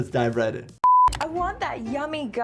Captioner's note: screen beeping